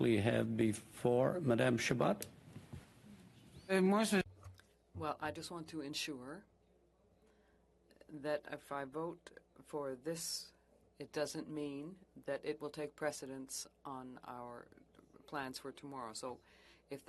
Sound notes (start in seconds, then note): 7.4 speaking French